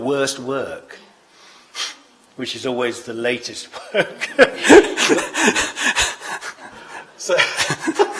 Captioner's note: laughs